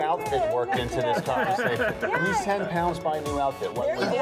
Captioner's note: laughter